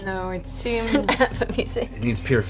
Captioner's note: laughs